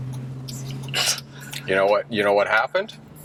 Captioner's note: scoffs